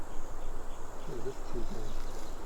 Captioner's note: indistinct chatter